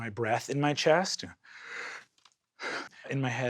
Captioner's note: gasps